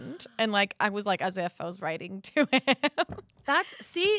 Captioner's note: laughs